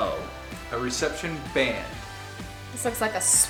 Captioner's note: male Voice